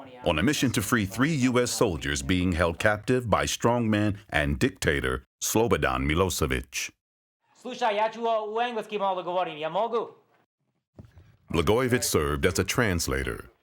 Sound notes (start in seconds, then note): 6.8 Rod speaking in foreign language